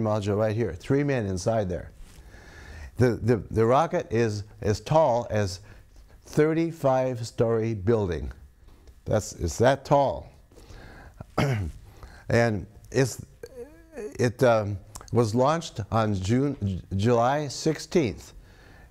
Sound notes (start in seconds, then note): 11.2 clears throat